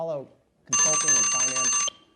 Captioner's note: alarm rings